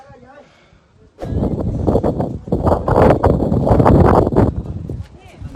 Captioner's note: wind